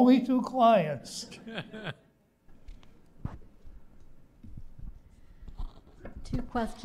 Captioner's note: laughter